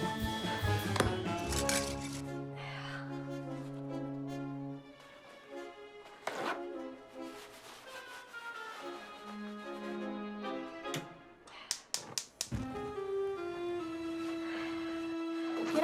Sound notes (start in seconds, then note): 11.7 burner clicking